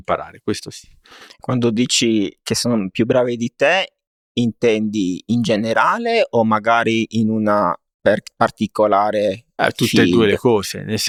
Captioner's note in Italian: sbuffare